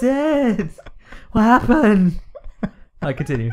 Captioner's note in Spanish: Risas en Ingles